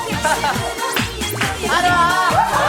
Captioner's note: bounce♥